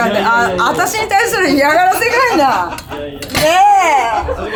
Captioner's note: laughs